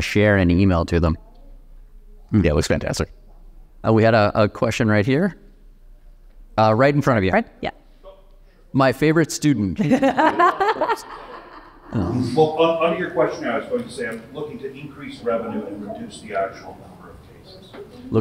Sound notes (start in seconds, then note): 9.8 laughing